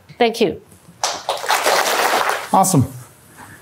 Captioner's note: applause